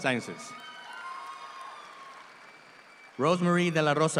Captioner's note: audience applauds